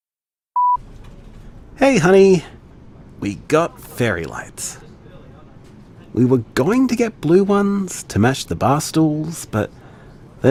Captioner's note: BG SFX: Tram noises